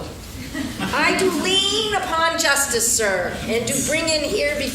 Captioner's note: laughing